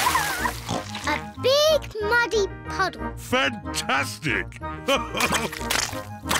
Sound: oinks; laughs

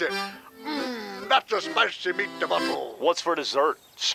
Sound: in bad Italian accent

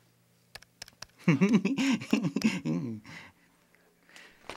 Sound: giggling

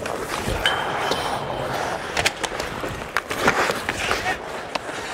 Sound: skates on ice

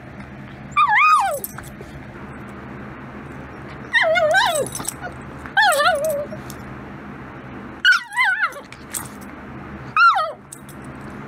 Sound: whimpers again

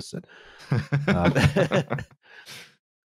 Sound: laughter

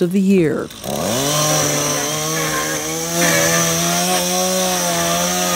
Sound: chainsaw buzzing

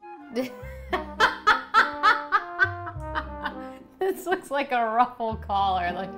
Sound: laughs

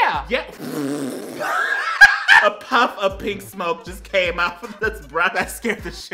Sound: laughs

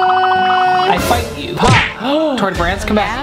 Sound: gasps

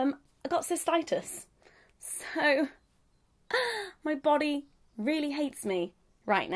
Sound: sighing

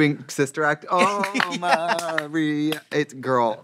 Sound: clapping rhythmically

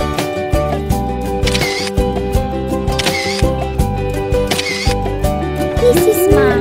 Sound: multiple digital shutter clicks

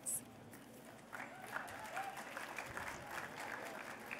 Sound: applause

